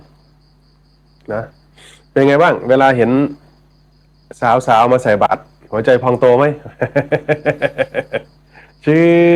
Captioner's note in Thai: เสียงหัวเราะ